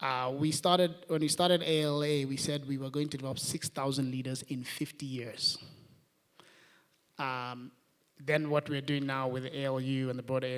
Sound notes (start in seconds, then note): none